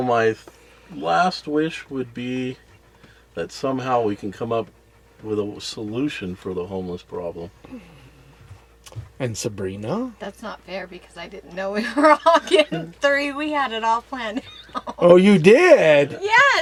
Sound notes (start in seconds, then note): 11.7 laughs